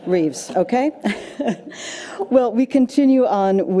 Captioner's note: laughs